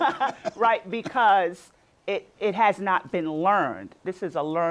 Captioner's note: laughter